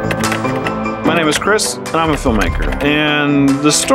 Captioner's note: keyboard typing sounds